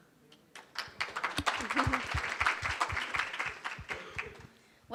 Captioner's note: applause